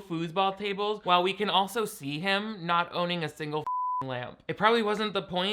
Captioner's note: beep